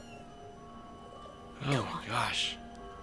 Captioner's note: none